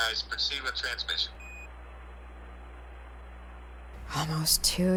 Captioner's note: system beeping